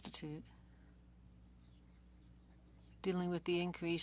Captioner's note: speaking French